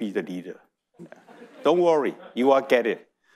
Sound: audience laughing

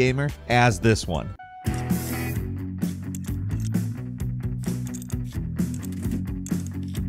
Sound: energetic music; bolts buzzing

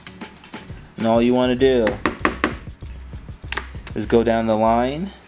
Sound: tapping

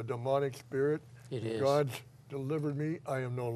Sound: voiceover

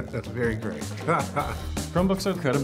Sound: laughs

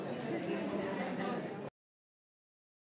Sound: crowd chattering

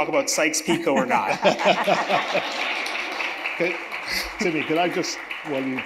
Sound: audience chuckles; audience applauding

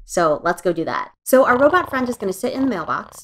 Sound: robot snores

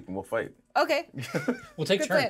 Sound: speaker laughs

